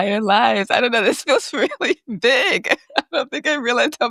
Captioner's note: chuckles